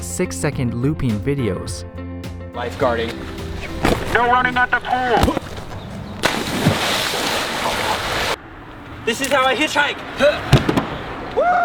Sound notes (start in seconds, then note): 6.3 water splashing